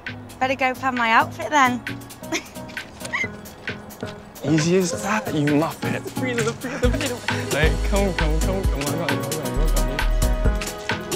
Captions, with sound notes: Better go plan my outfit then. (laughs) easy as that you muppit. Oi come come come I got you. (up beat music)